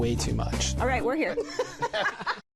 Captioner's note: laughter